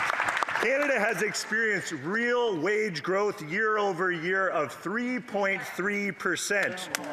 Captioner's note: applause